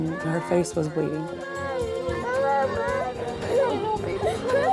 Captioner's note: girl crying